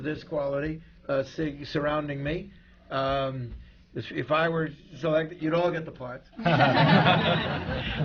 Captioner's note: laughter